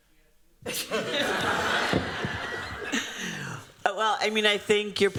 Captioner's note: laughter